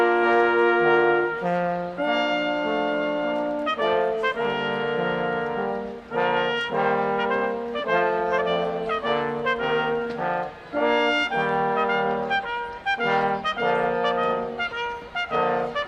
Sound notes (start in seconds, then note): none